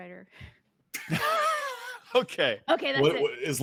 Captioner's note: laugh